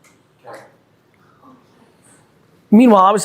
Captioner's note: group murmuring